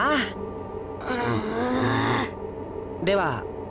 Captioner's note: grumble